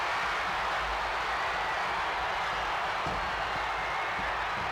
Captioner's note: crowd cheers